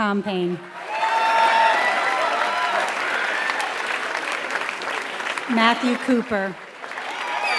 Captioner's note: applause